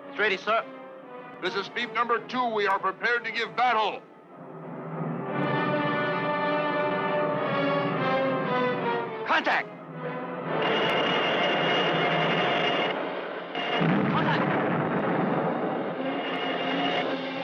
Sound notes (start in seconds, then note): 5.1 suspenseful orchestral music; 10.9 lasers blasting